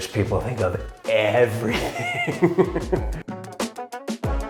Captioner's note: laughing; upbeat music